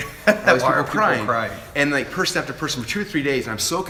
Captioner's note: laughs